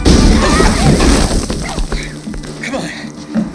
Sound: grunts

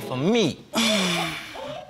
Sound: exhales

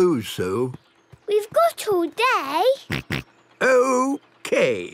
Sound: snort

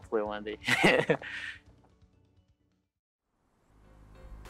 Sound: laughing

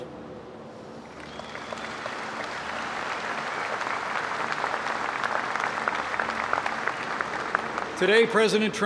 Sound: applause

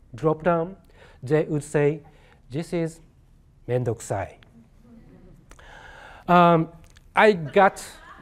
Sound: speaking japanese

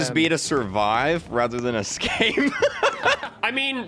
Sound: laughs

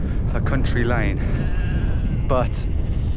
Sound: sound of sheep in background

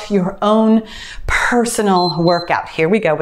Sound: timer beeps

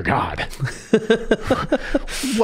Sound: laughing

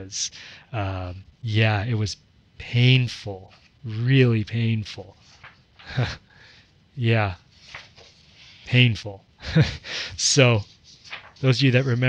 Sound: laughs

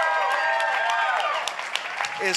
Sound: applause

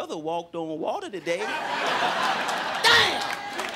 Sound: crowd laughing

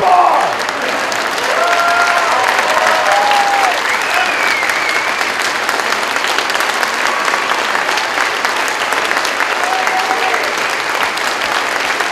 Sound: cheering, applause

